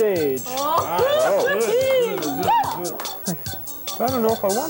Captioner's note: cheering